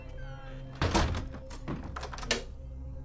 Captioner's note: Door creaks closes; Door locks